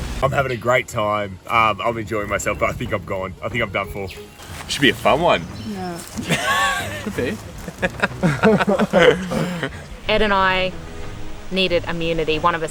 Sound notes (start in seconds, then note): 9.6 laughing